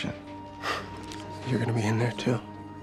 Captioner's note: chuckles